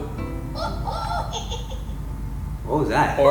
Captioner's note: laugh